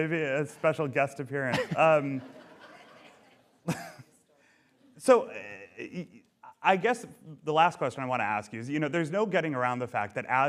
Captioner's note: laughter